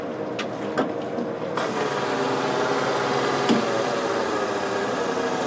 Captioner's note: engine whirring